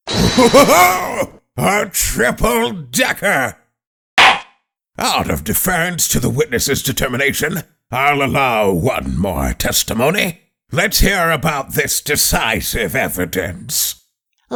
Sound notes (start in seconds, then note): 4.2 gavel slams!